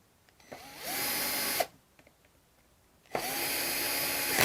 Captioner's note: drill whirring